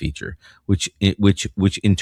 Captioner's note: uh